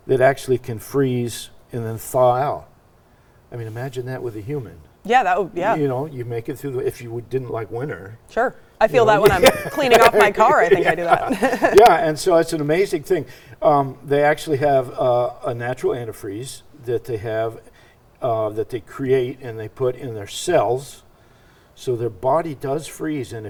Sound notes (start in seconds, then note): 9.0 chuckles